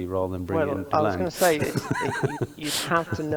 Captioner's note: laughs